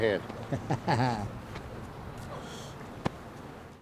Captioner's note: interviewer laughing